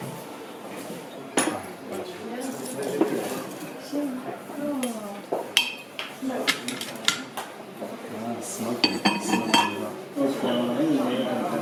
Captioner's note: chinese mandarin